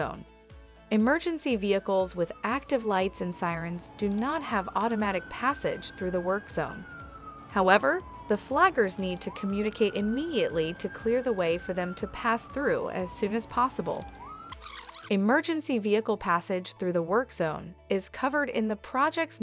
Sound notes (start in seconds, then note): 0.1 emergency siren